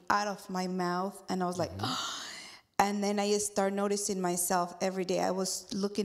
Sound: gasp

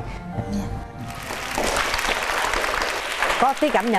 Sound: clapping hands

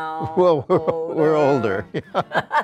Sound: laughing

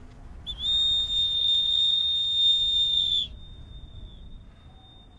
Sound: whistling

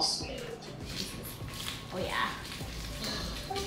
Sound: wrapper crinkling

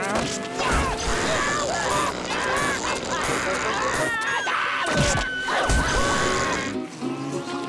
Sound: screaming

